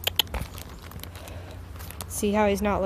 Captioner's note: clicks tongue